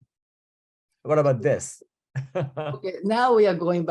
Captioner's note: chuckling